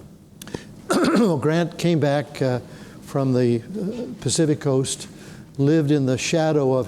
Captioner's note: clears throat